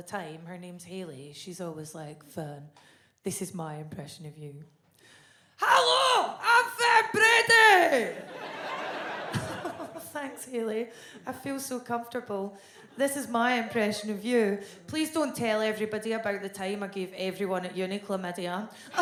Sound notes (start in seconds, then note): 8.1 chuckles